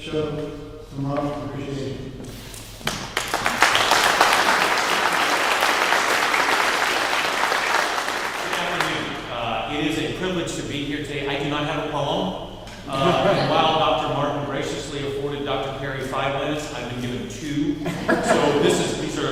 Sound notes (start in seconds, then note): 2.8 clapping